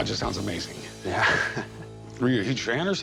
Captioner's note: chuckles